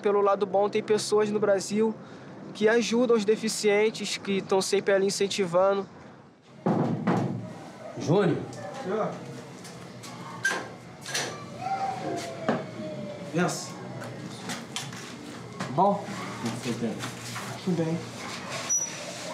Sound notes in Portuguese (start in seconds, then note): 6.6 batem na porta